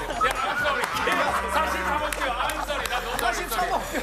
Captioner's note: A sound of cow